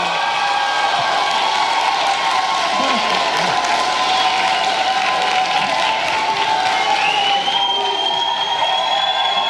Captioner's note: cheers and applause